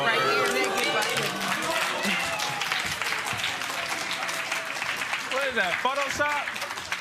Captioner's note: applause